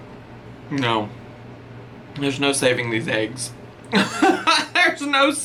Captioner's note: laughs